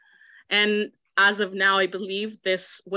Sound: none

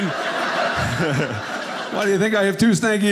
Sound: audience laughing

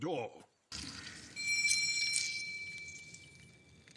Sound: doorbell rings

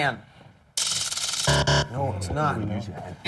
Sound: buzzer

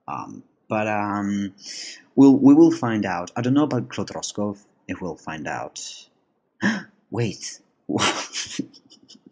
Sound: gasp; laugh

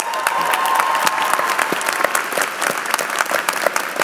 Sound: applause

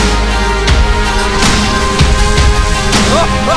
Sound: strange green explosion

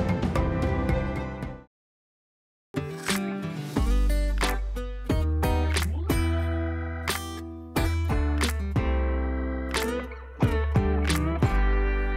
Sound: applause

